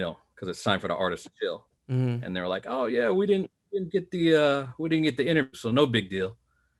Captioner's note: mmHmm